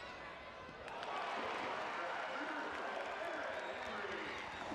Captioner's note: crowd cheering